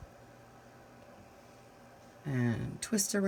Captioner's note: silence